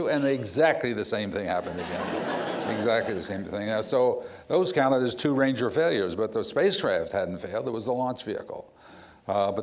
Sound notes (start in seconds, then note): 1.6 laughter